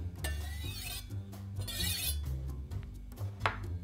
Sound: knife sliding

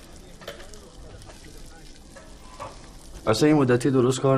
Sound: sizzling sound

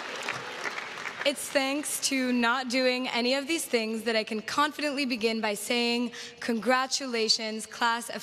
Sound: applause

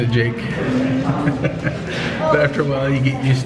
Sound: laughing

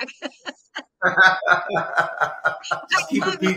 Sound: all laughing

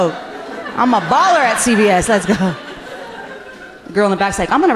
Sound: laughing

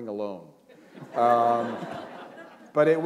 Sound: laughter

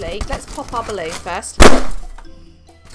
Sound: balloon loudly pops

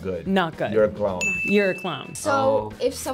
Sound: bell dings

